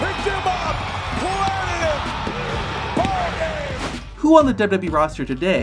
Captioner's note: crowd cheering